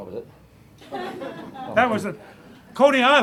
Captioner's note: laughter